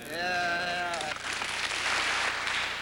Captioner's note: applause